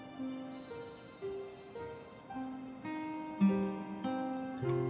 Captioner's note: doorbell tinkling; melancholy music